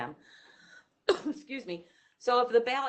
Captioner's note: coughs